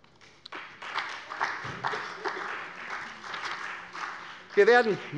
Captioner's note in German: Beifall bei der SPD